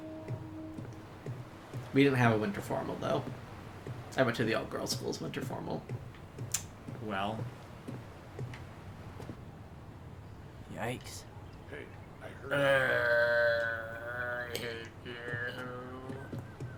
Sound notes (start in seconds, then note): 12.4 vomitting sound